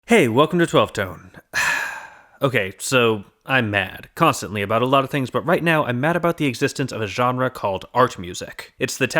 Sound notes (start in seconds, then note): 1.4 sigh